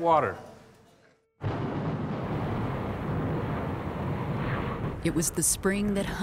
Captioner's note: thunder rumbles